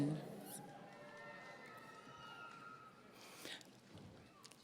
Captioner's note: audience cheering